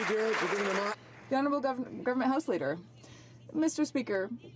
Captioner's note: some Applause